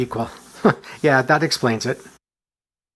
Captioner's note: chuckle